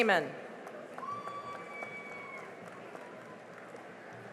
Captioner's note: cheering and applause